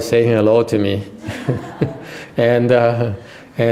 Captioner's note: laughter